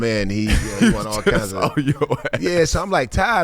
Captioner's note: laughs